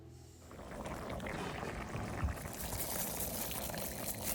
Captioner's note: saucepan bubbling; rice shaking